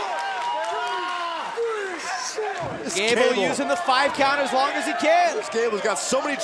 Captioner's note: crowd cheering